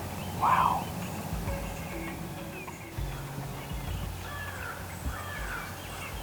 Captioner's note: whispering